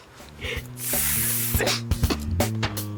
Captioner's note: makes sizzling sound; upbeat music